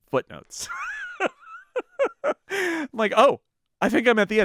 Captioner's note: laughing